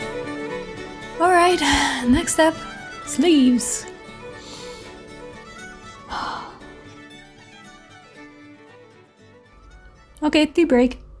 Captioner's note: sigh